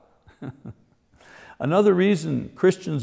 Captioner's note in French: rire